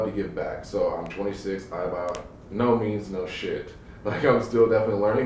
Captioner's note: laughs